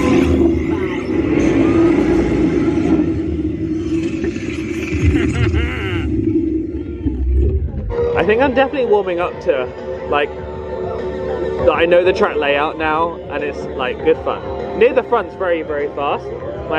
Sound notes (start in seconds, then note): 1.7 mechanics humming; 4.6 laughing